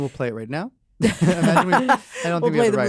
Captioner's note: laugh